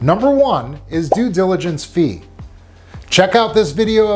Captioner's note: graphic blipping